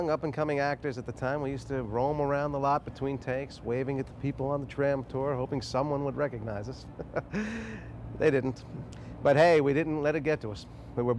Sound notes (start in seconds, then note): 6.8 Jason chuckling